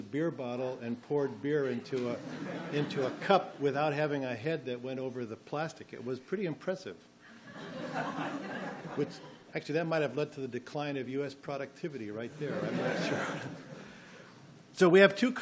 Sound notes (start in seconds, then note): 2.0 audience laughs; 7.4 audience laughs